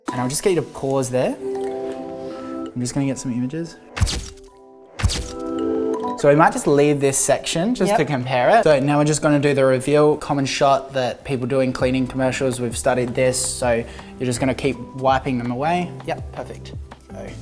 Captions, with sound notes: And I'll just get you to pause there. I'm just gonna get some images. (camera shutter) So, I might just leave this section just to compare it. Now we're just gonna do the reveal common shot that people do in cleaning commercials. We've studied this, so you're just gonna keep wiping them away. Yup, perfect.